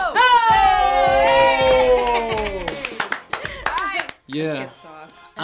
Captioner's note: clapping